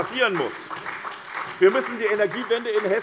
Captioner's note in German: Beifall SPD